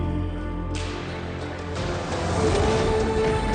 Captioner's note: whip cracks